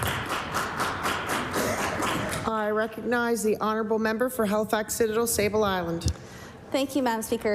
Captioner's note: applause